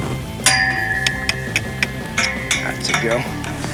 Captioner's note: mouth clicking